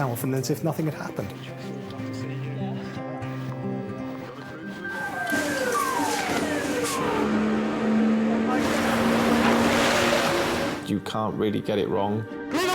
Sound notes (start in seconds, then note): 2.1 people chattering; 4.7 siren blaring; 7.3 engine revving; 8.5 waves roaring